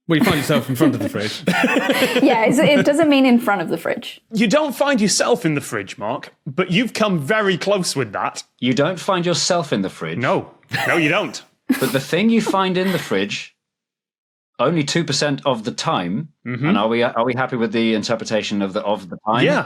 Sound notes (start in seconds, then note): 0.1 laugh; 10.7 crack up